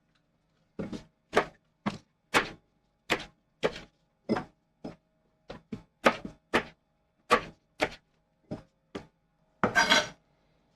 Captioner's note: knife cutting